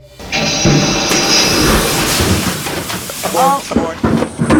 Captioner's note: engine igniting